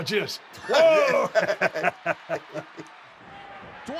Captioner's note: laugh